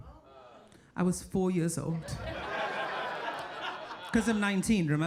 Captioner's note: audience laughing